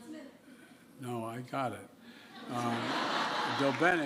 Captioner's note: laughter